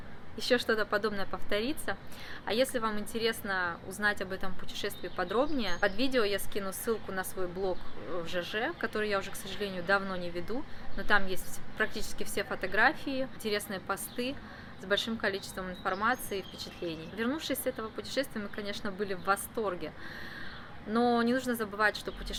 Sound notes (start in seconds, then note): 8.3 in Russian, lol